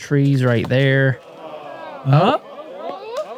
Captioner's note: applause